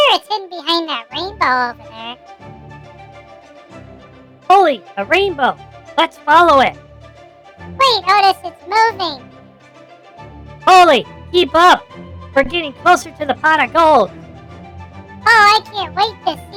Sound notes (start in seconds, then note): 7.8 panting; 14.7 mockingly